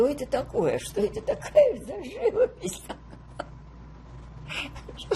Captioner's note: laughing